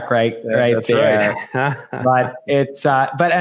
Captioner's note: chuckles